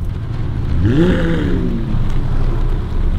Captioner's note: engine roaring